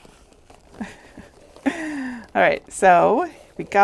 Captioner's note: chuckling